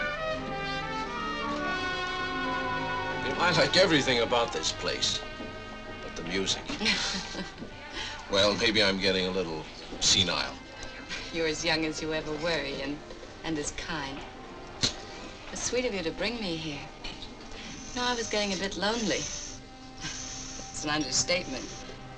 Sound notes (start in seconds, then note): 0.2 upbeat music; 6.5 laughing